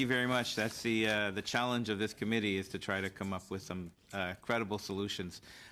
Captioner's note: speaking french